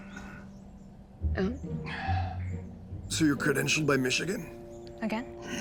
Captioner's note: inhaling